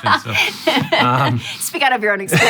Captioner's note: laughing